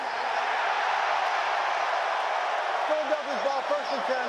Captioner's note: cheering